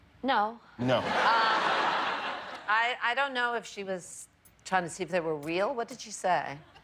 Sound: laughter

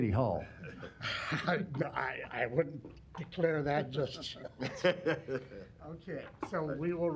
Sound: laughs

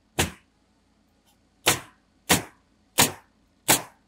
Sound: nail gun bangs

